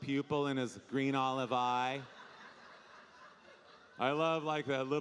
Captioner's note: audience laughing